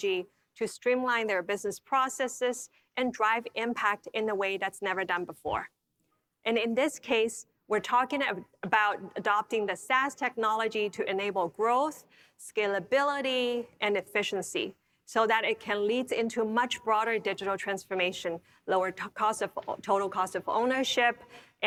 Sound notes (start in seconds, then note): none